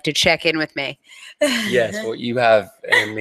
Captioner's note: laughs